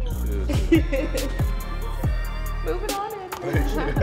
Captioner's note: woman laughing